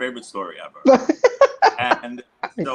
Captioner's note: laughing loudly